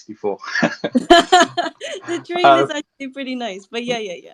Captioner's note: laughs